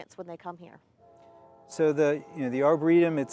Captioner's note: train whistle blowing